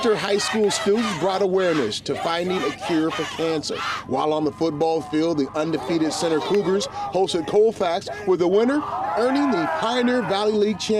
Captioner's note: cheering